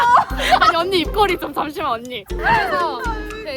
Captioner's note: the other girls on the tour are laughing